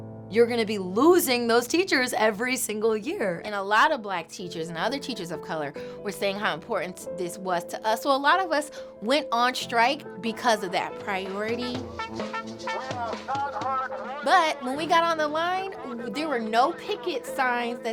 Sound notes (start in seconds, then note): 11.2 instruments playing; 11.4 protestors chattering